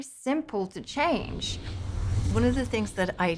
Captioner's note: whooshing